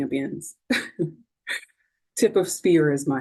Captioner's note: chuckling